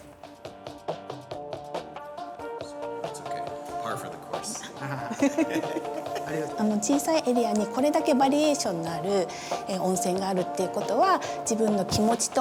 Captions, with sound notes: (upbeat ambient music) That's okay. Par for the course. (people laughing) (woman speaking Japanese)